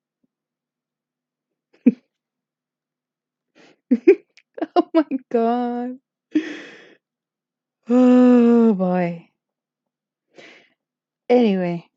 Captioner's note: laugh